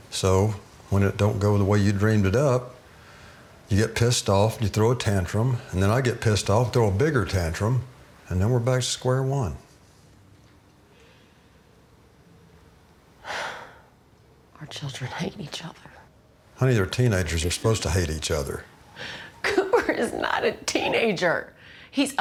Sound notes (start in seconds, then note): 3.4 inhales; 13.2 sighs; 19.0 sobs